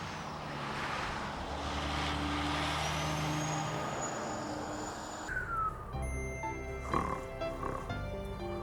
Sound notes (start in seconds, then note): 6.7 dave snoring